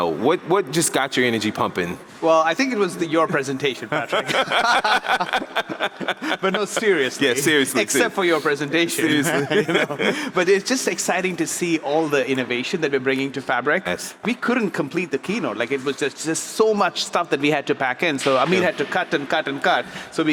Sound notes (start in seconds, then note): 3.8 laugh; 8.9 laughs